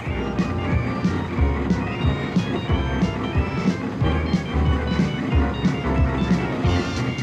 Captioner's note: engine thrumming; upbeat rock music